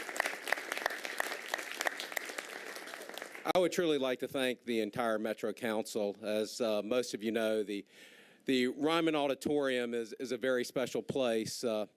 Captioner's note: applause